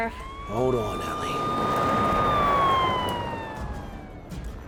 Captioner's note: sirens wail; tense music